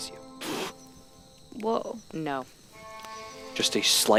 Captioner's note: startled noise